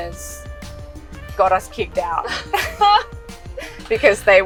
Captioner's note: laughs